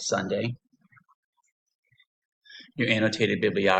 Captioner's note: pause